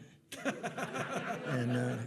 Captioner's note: attendees laughing